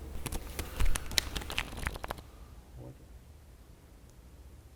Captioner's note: keyboard typing